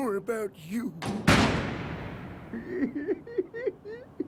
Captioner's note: laughs